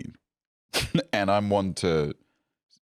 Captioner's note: laughs